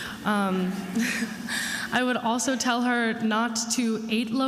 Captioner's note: attendees laughing